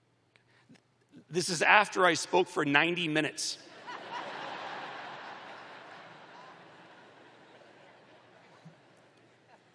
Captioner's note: laughter